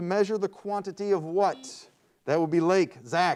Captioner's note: buzzer beeps